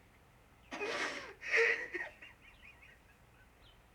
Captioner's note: sobbing